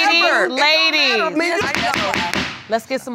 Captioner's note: gavel banging